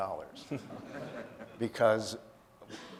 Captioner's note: audience laughing